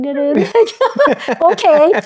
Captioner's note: laughing